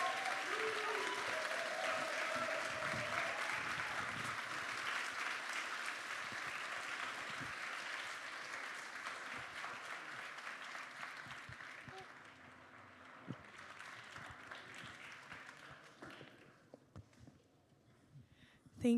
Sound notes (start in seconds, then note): 8.2 applause; 8.2 cheers